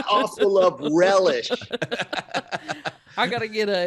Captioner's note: laughing